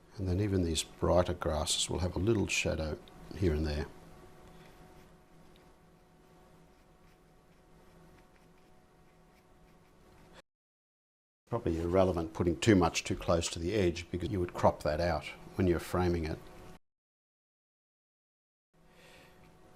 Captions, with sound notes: Then even these brighter grasses will have a little shadow here and there. [silence] Probably irrelevant putting too much too close to the edge because you would crop that out when you're framing it.